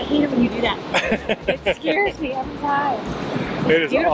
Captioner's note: laughs